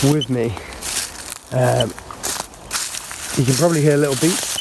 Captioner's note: leaves rustling